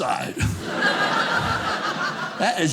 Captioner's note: audience laughing